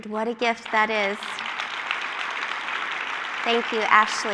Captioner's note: applause